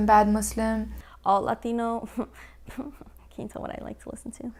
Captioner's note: chuckling